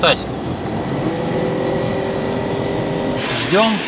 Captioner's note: sound of engine acceleration